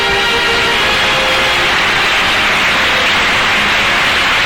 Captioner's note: audience applause